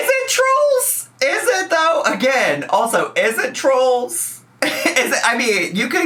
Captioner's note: laughs